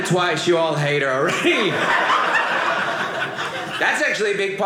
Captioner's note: audience laughing